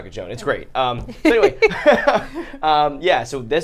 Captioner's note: laugh